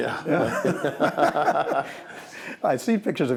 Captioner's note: laughing